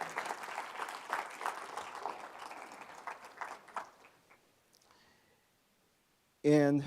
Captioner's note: applause